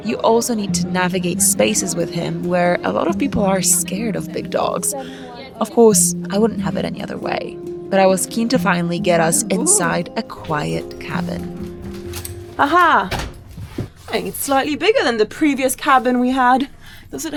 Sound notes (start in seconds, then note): 10.3 door opens; 13.0 door thuds